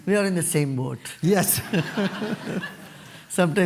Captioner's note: laughter